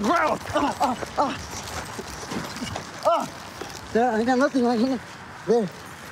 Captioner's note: grurunts